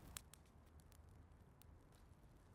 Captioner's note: none